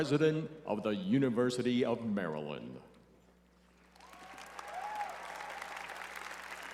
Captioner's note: cheering and applause